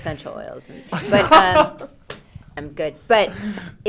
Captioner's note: laughs loudly